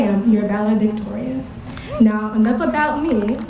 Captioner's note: applause